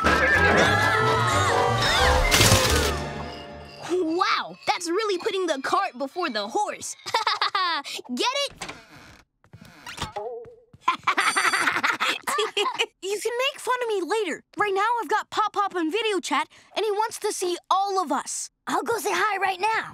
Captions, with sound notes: [screaming] [camera flashing] Wow, that's really putting the cart before the horse. [laughing] Get it? [laughing] You can make fun of me later. Right now, I've got Pop Pop on video chat, and he wants to see all of us. I'll go say hi right now.